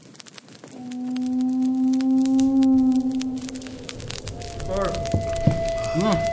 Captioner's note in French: bruits de repas